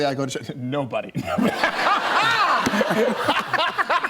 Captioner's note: laughter